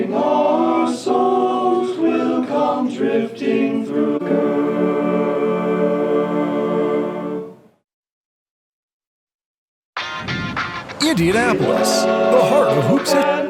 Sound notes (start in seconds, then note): 11.0 upbeat music; 11.1 lively Manly Voice